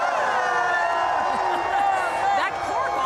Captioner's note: cheering